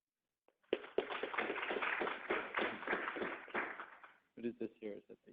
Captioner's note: crowd applauds